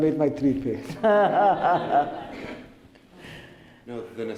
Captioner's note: laughter